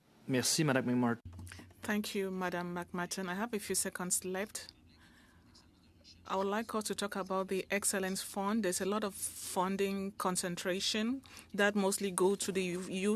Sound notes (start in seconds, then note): 8.4 speaking French